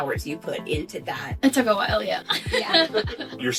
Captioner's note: laughs